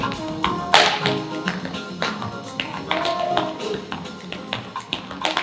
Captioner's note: body beating and snapping